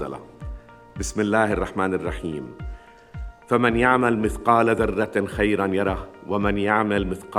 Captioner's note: speaking in foreign language